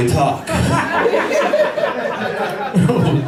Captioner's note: laughter